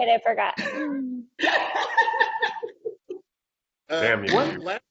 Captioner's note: laughing